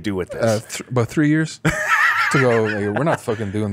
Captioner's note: laughs